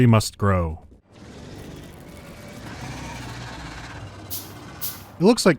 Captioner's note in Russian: сердитое шипение